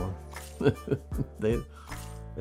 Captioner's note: laughs